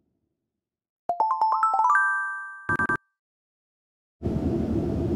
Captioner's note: message beeps